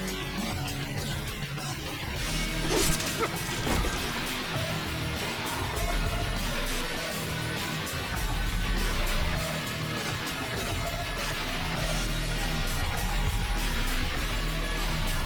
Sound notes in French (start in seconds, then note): 2.6 couteau sifflant; 7.8 la musique heavy metal intense continue